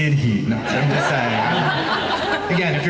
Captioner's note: laughing